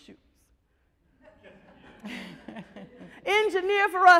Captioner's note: audience laughs